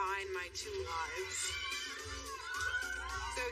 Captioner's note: kids cheering